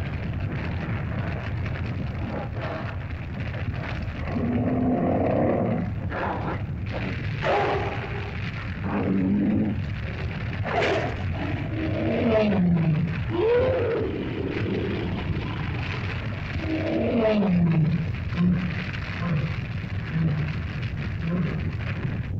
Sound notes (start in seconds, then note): 0.2 fire crackles; 4.1 lizard growls & bellows